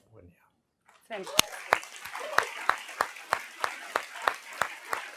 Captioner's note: applause